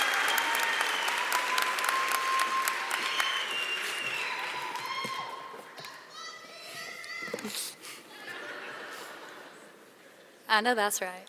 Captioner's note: cheering; applause